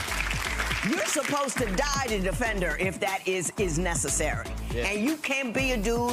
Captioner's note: audience clapping